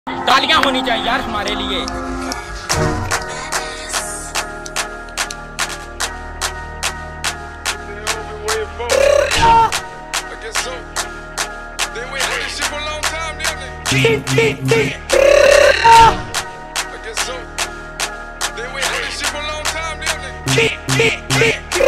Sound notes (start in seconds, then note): 10.1 intense Clapping; 10.1 more Clapping; 13.0 intense Clapping; 15.9 intense clapping but with music